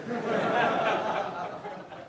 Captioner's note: laughing